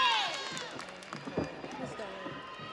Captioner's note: audience cheers; audience applauds